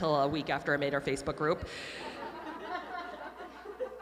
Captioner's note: audience laughing